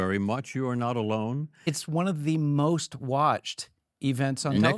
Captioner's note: none